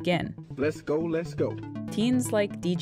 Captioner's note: soundbite of archived recording